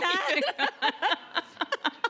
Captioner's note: laughing